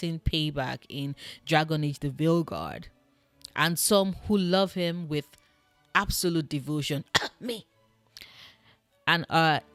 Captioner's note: cough